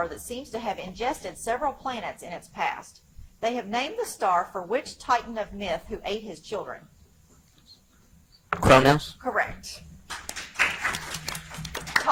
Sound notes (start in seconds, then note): 7.8 teammates whispering "Kronos"; 10.1 audience applauds